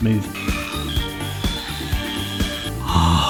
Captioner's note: machine whirs